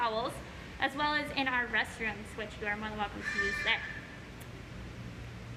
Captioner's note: bird squawk